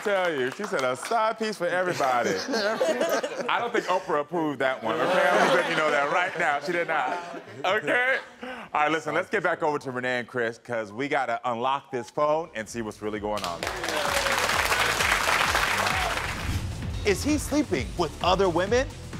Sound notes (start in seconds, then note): 13.4 audience applauds; 14.0 upbeat music